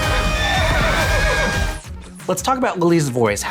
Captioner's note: horse whinnies